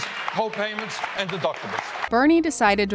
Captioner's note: clapping